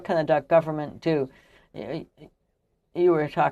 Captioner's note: speaking french